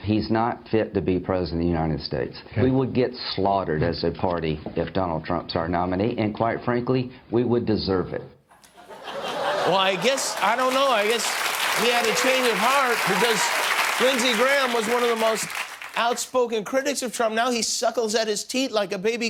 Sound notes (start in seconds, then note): 15.9 applause